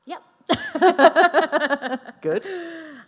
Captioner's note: laughing